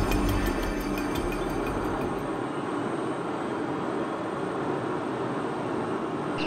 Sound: machine humming

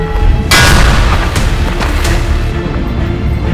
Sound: clangs

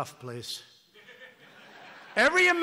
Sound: laughter

